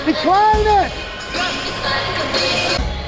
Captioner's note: arena Crowd and Noise; more Arena Sounds